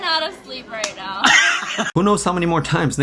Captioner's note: laughs